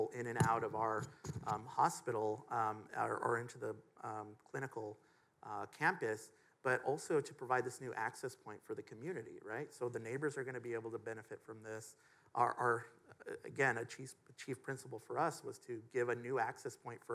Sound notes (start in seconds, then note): none